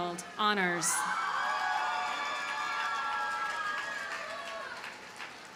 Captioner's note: audience cheers and applauds